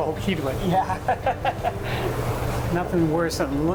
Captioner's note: laughs